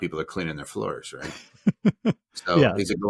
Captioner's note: chuckling